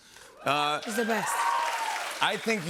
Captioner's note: cheers and applause